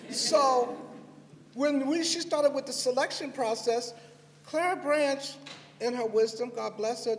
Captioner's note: laughter